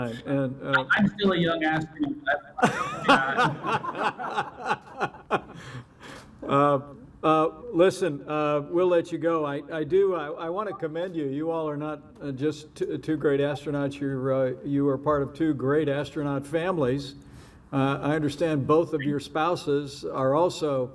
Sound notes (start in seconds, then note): 5.0 laughter